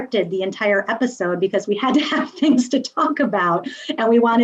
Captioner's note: laughs